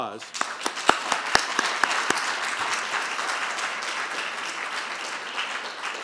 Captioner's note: applauding